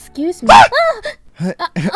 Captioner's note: comedic Scream; chuckling; giggle